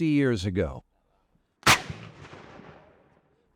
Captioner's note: canon fires